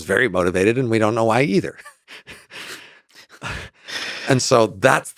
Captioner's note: laughs